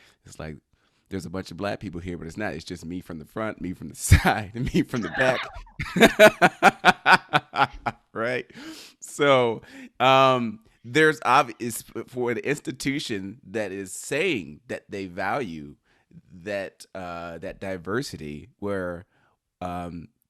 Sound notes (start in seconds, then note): 4.9 laughs